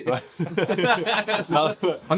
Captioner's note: laughs